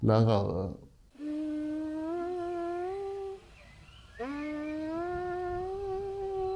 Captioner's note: buzzing